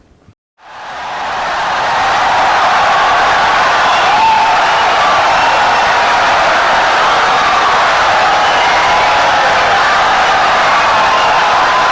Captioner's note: wild applause and cheering for 17 seconds